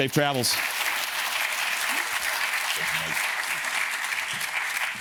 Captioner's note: audience cheers and claps